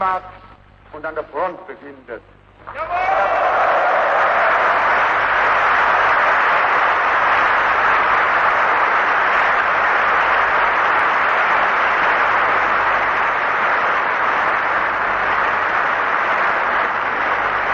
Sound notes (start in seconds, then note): 2.6 applause